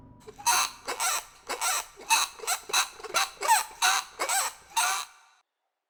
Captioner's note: ramp lowers; squeaking wheel